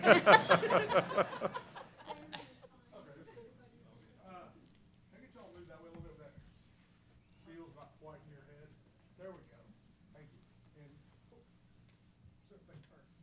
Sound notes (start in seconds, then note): 0.0 laughter; 3.1 background conversations